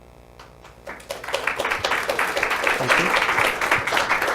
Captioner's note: audience applauds